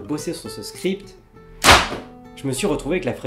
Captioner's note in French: blam